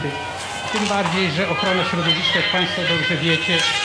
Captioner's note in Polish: dźwięk dzwoniącego telefonu